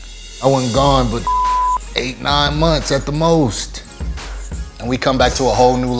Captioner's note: beep